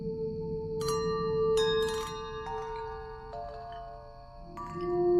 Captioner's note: glass clinking